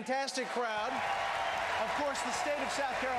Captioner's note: applause